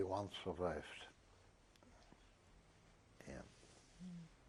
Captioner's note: pauses for 3 seconds